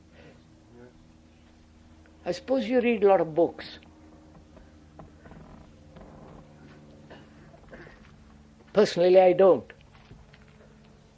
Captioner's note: laughter